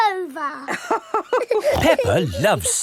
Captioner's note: both laughing